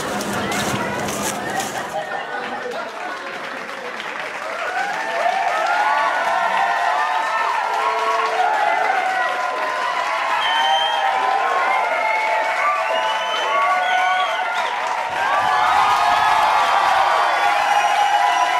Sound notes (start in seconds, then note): 2.2 cheeering and clapping